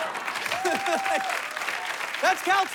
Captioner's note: laughs